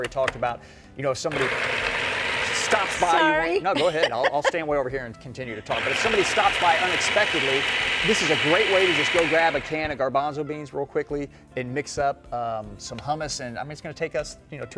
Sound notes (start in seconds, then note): 1.3 grinding noise; 5.7 grinding noise